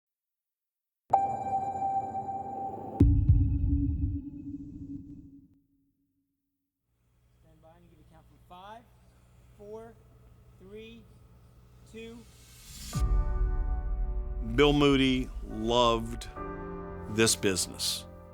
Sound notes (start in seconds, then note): 1.1 monotone rings; 13.9 uplifting orchestra music